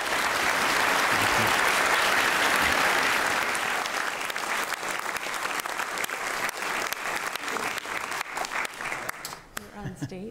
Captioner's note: applause